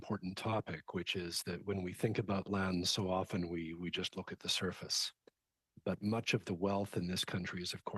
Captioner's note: speaking French